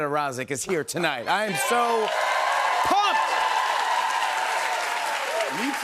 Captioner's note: cheers and applause